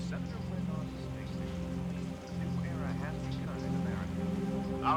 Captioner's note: man on TV speaking